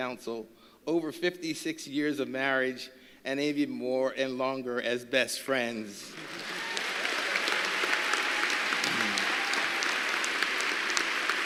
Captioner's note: applause